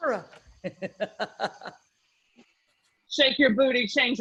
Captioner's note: laughing